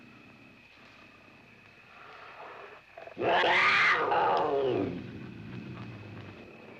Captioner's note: mountain lion growling and roaring